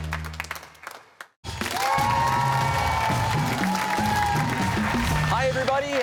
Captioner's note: cheers and applause